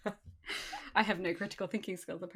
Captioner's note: laughs